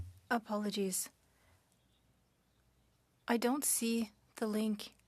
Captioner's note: speaking French